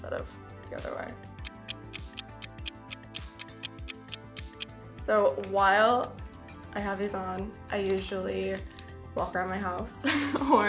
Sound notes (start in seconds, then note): 1.4 clock ticking; 10.0 laughs